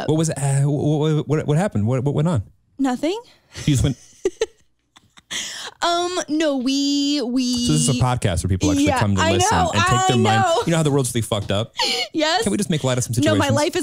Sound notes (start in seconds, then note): 3.6 chuckles